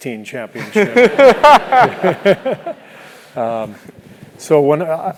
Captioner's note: laugh